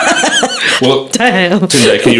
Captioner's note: both laughing